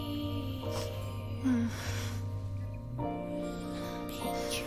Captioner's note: moans